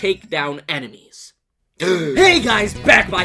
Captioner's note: gasps